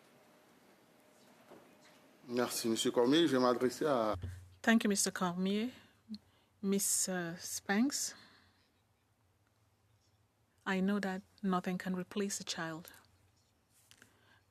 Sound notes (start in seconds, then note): 6.1 speaking in French